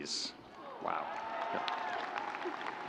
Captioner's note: audience cheering